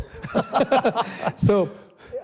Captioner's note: both laughing